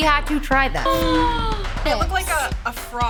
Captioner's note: all gasp